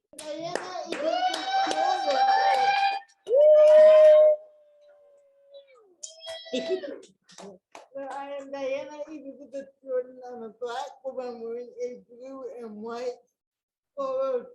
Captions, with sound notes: (audience clapping and applauding) - Well, I am Diana Elizabeth Jordan, I'm a Black woman wearing a blue and white colored dress,